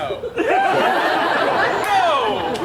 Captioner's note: audience laughs